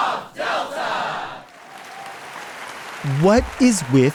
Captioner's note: audience applauding